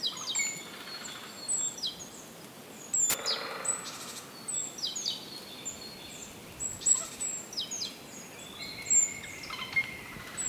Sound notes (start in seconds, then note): 0.0 birds chirping, TV volume = 0; 3.1 TV turns off